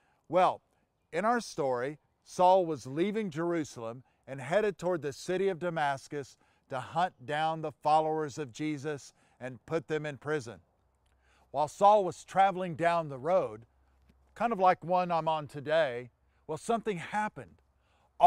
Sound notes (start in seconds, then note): none